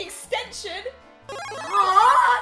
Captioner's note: level Up sfx